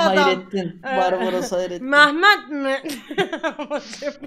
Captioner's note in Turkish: gülerek